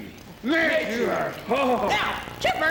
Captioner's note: chatter